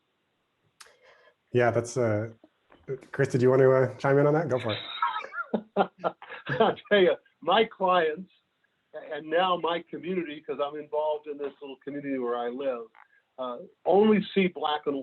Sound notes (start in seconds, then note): 4.5 laughing